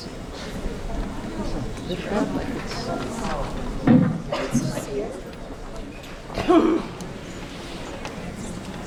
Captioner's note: more murmuring